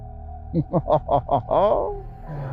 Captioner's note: laughs